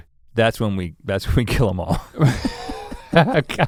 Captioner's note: chuckles